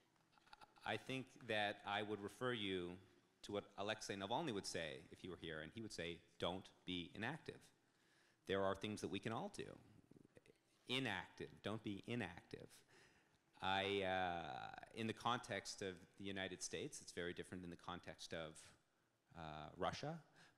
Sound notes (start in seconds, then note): none